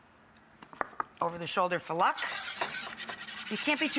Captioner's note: whisk whisking